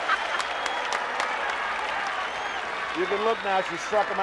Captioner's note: Ellie laughing